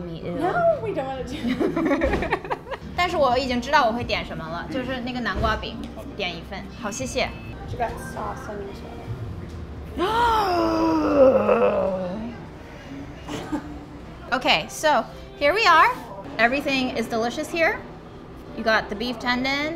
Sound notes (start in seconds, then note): 2.5 speaking foreign language; 10.0 gasping